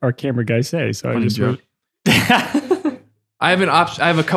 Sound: laughing

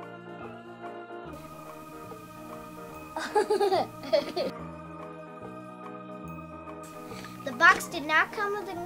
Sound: laughter

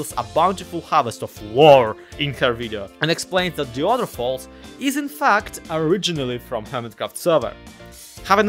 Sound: none

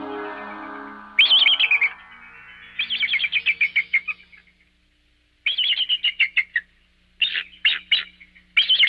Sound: eagle sounds

